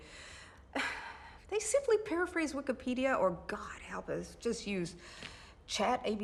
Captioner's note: sigh